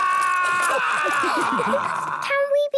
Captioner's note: all laughing